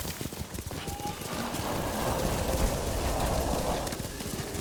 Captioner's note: thunder rumbling